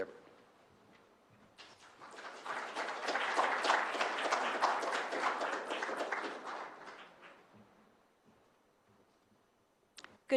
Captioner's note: applause